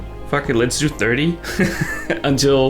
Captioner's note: laughs